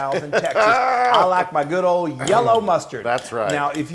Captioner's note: laugh